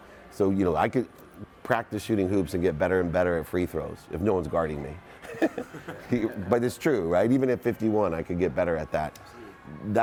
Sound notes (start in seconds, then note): 5.2 laughs